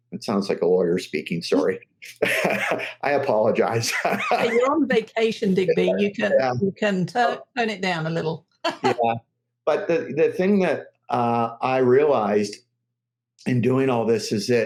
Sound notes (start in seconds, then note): 2.0 laughs; 8.9 laughs